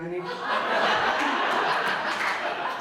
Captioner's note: audience laughs